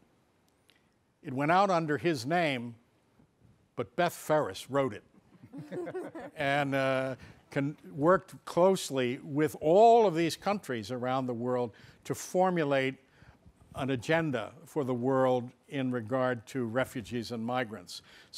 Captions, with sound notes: It went out under his name, but Beth Ferris wrote it. (audience laughing) And worked closely with all of these countries around the world, to formulate an agenda for the world in regard to refugees and migrants.